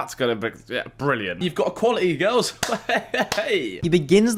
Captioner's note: laughs